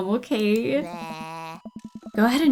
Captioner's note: taunts